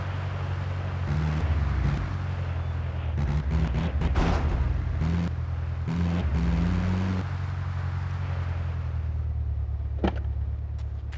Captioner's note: tires screeching